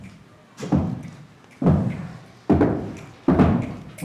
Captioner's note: crowd stomping their feet